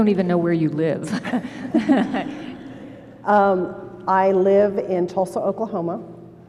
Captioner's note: laughter